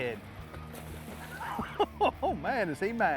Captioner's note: laughing